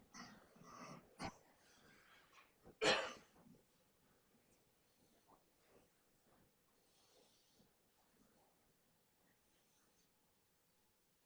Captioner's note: silence